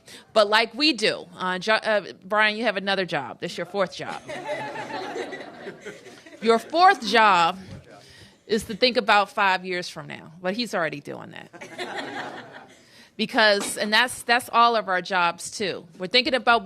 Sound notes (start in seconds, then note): 4.1 laughter; 11.5 laughter